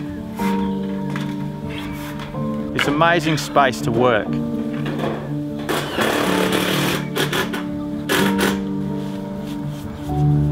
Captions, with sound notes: This amazing space to work. [drill] [reflective music continues]